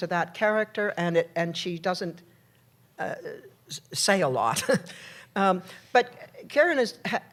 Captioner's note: laughs